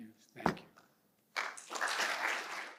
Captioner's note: applause